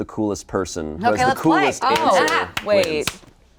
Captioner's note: clapping